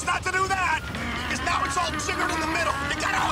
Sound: growling

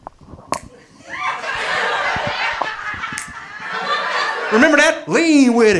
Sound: audience laughing

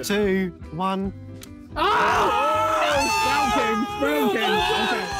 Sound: Red Team exclaiming

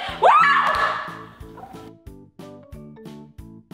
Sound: screaming

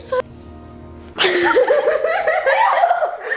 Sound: laughing

